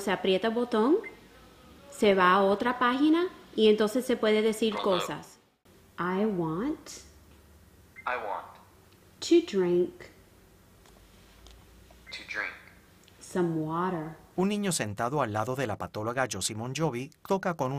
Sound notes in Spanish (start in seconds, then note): 8.4 voz masculina del aparato